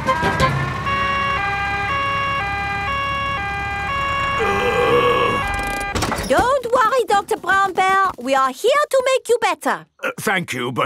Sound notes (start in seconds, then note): 0.1 siren wailing; 4.4 groaning